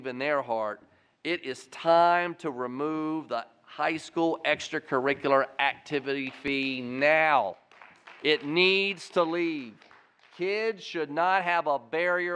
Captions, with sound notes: IN THEIR HEART IT IS TIME TOOL REMOVE THE HIGH SCHOOL EXTRA CURRICULAR ACTIVITY FEE NOW. [APPLAUSE] IT NEEDS TO LEAVE. KIDS SHOULD NOT HAVE A BARRIER